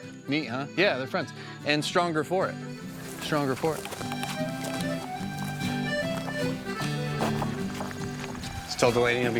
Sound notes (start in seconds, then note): 2.7 footsteps rustling; 4.1 folk music continues